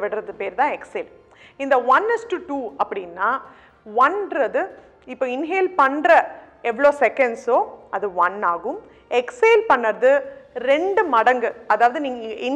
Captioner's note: twice of inhalation